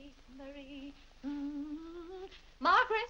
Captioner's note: Vinnie hums